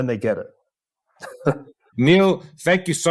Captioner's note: laugh